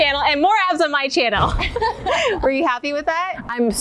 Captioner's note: laughing